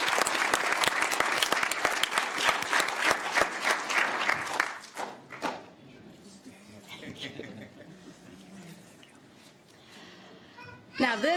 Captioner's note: applause